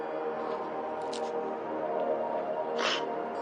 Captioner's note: crying